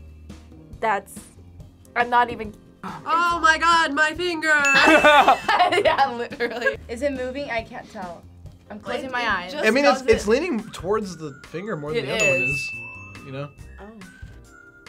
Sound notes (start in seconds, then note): 4.7 both laugh